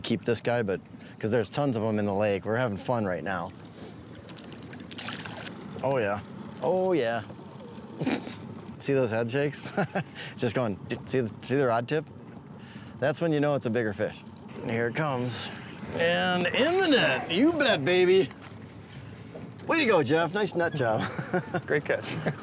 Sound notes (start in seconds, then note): 5.7 water splashing; 9.7 chuckling